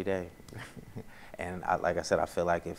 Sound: laughs

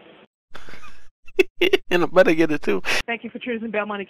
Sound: chuckle

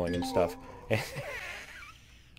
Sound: laughing

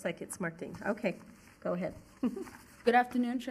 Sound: chuckles

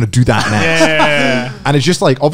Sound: laughing lightly

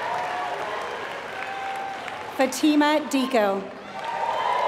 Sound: applause

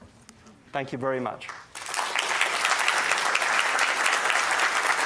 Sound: audience applauds

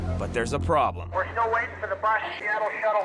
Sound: man Over Radio

